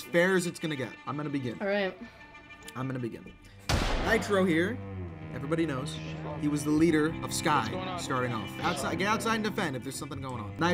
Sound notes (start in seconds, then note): 3.6 gunshot